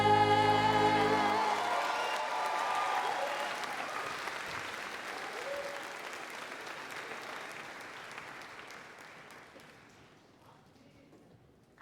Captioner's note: applause